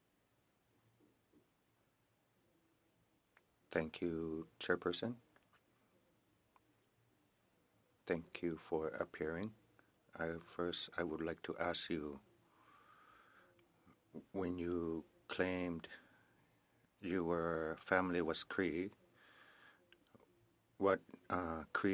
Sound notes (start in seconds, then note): 3.0 silence